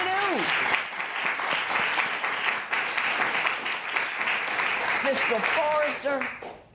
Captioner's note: applause